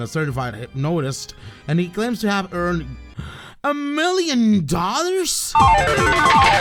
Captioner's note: gasp